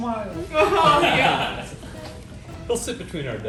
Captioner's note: team laughing